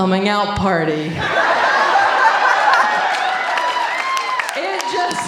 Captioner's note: audience laughing